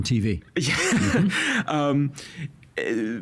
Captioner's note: laughing